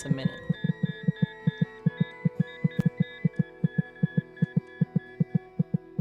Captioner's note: heartbeat